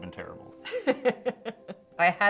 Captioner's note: laughs